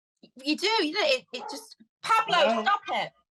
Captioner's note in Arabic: بابلو ينبح